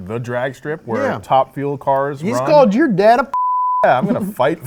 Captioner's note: beep